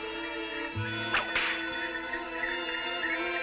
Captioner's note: whip cracking